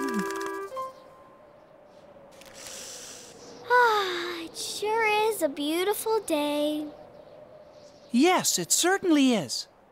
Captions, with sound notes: [ Deep breath ] AHHH. IT SURE IS A BEAUTIFUL DAY. YES, IT CERTAINLY IS.